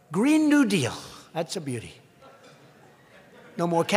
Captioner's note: laughter